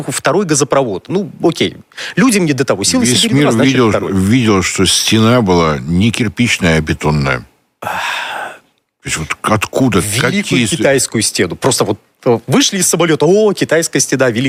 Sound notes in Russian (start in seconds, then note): 7.8 вздыхает; 7.8 тяжело вздыхает